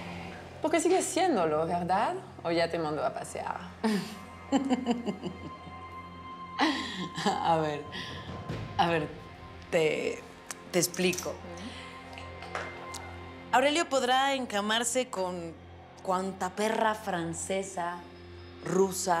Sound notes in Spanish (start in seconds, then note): 4.4 Mónica ríe